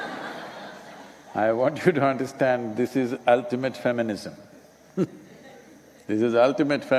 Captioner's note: laughter; laughs